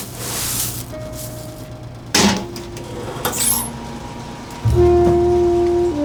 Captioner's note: popcorn machine whirring; slow jazz music